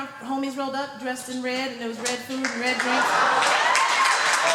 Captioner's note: laughter